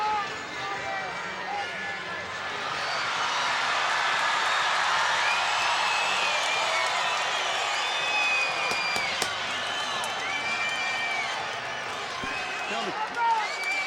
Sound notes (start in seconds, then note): 3.3 crowd cheering